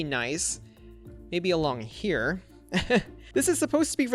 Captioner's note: chuckles